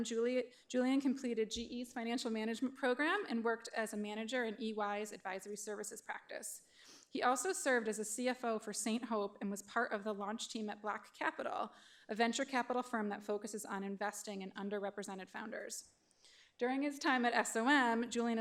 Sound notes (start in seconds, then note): none